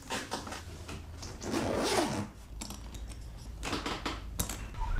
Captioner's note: loud zipper